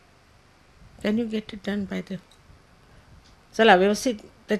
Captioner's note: hindi